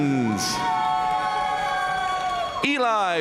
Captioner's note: audience cheering and applauding